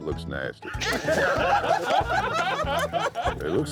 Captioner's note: laughter